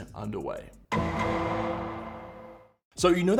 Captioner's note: dramatic sound